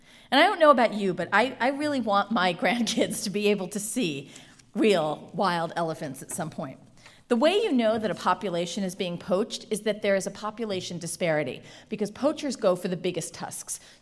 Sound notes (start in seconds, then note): none